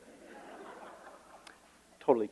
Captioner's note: laughter